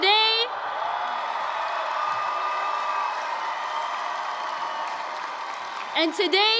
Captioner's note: applause, cheering